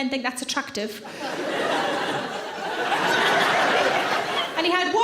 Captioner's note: audience laughing